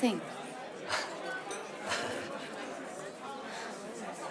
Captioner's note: Rene laughs